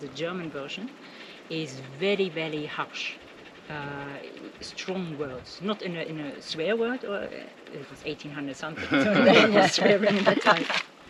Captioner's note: laughing